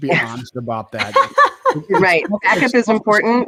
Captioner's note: laughs